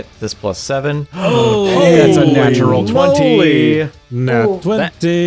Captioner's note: gasps in critical hit